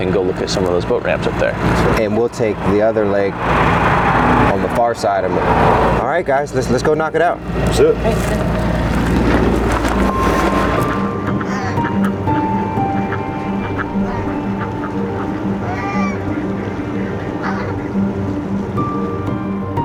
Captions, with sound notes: and go look at some of those boat ramps up there? - And we'll take the other lake on the far side of it. All right guys, let's go knock it out. - Let's do it. - Okay. (ducks quacking) (curious music)